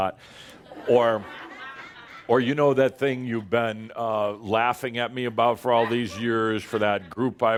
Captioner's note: laughter